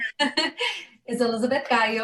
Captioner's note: laughing